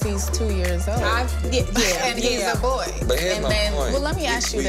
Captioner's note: scoffs